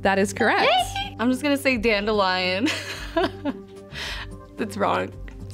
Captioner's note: laughing